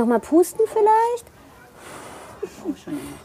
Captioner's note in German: Sie pustet